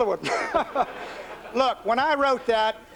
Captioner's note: laughter